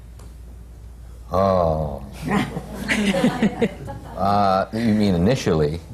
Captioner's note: laughter